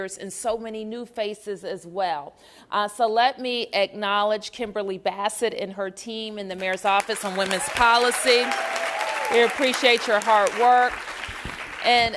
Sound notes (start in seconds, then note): 6.6 applause